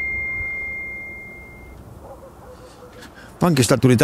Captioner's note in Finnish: Ding!; koira haukkuu